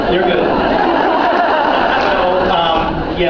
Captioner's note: laughs